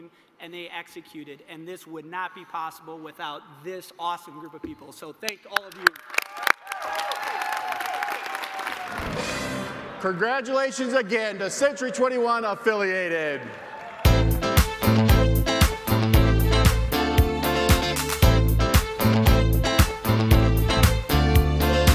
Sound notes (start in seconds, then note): 9.0 cheers